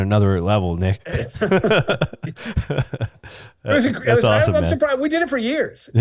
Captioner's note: laughing